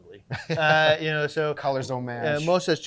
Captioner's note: laughing